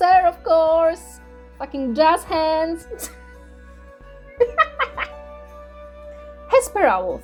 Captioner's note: short snort